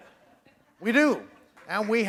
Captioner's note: laughter